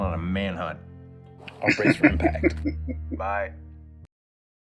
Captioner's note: chuckling